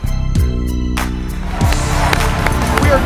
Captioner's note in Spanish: Aplausos